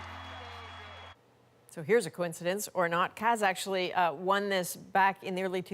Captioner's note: applause